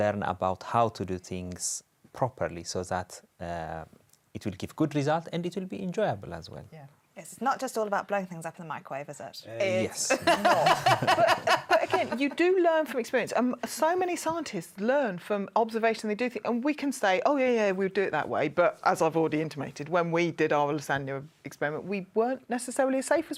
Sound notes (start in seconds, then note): 10.0 laughter